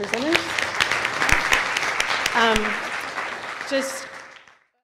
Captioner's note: audience applauds